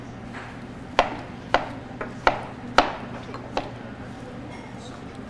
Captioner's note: object thudding